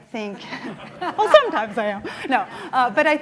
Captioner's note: laughing